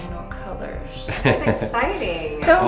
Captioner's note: laughing